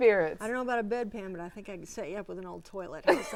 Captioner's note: laughing